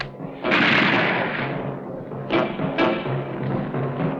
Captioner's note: guns firing